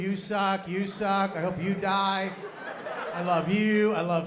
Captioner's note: laughter